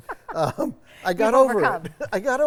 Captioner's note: laughing